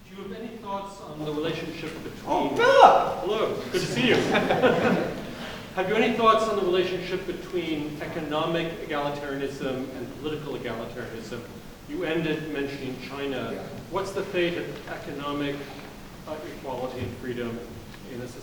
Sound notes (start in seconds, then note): 3.5 laughing drowns out speaker